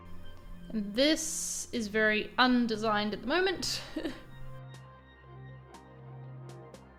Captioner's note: chuckles